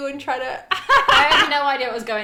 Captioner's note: laughing